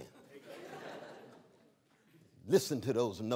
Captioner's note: laughter